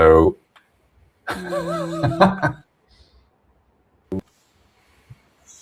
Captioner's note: laughs